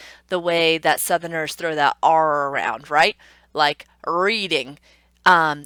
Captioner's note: emphasized "r"